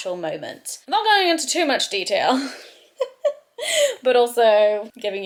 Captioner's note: laughs